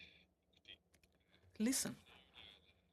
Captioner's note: speaking French